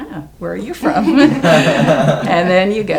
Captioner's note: audience laughs